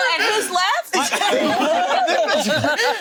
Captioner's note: group laughing